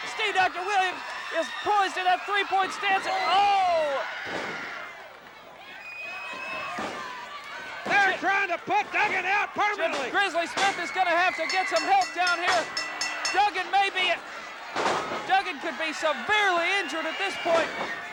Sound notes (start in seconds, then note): 11.4 bell dinging